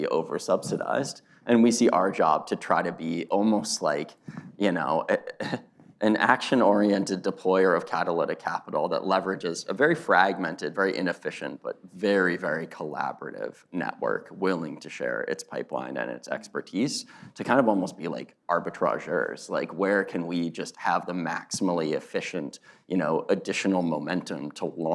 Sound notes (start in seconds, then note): 5.1 laughs